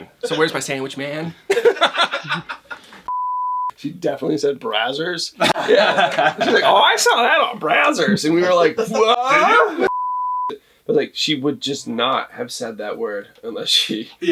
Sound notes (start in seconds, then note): 1.5 laughs; 5.4 multiple laughs